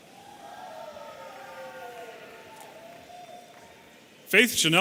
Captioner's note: audience cheering